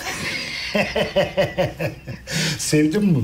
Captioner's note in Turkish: Gülme sesi